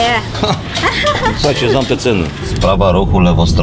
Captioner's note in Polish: śmiech